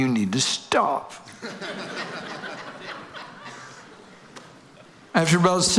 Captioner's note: audience laughing